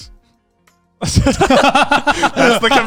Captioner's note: laughing